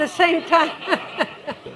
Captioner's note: chuckles; laughter